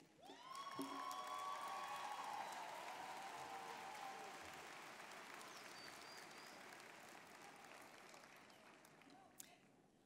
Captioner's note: applause, cheering